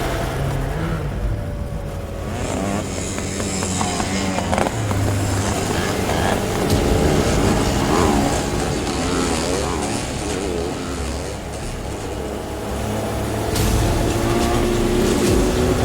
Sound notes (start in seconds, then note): 2.1 engines roaring; 2.1 tense music